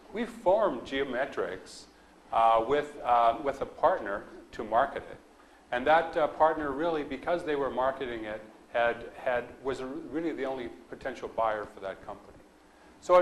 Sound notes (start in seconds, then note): none